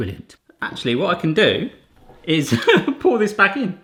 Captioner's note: laughing